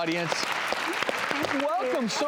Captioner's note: clapping